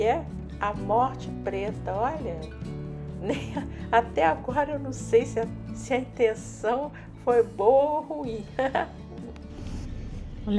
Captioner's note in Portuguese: risos